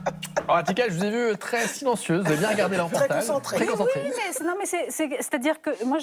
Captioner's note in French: rires